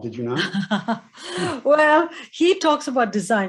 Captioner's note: Indra laughing